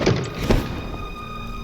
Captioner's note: woosh